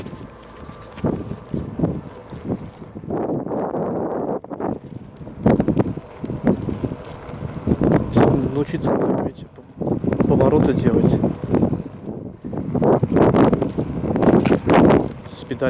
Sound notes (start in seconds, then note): 4.9 wind